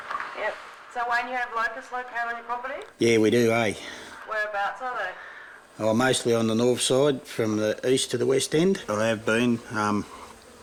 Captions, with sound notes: [woman on telephone] Yeah. So, what, you have locusts down on your property? Yeah, we do, aye. [woman on telephone] Whereabouts are they? Well, mostly on the north side from the east to the west end. They've been, um...